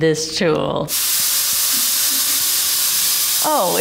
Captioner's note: fog projector hissing